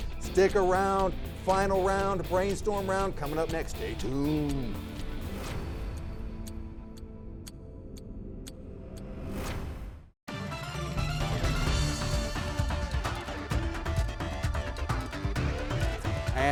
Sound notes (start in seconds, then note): 4.5 exciting music; 5.4 clock ticking; 10.3 exciting electronic music